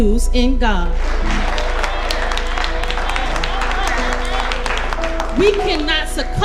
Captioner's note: congregation applauding